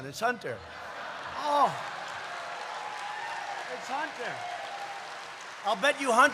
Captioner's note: laughter; applause